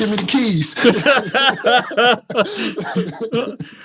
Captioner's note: laughs